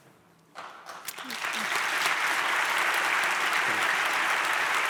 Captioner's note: audience applauds